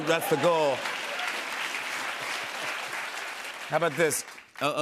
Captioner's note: applause